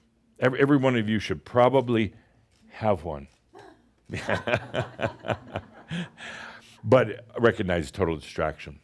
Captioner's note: Adamus chuckles